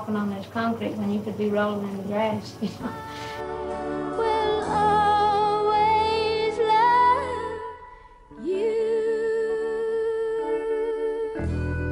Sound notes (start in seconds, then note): 2.6 laughs